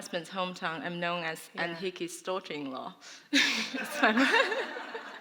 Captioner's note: laughter